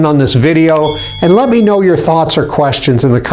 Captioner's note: bell chiming